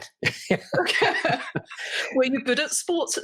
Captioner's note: both laugh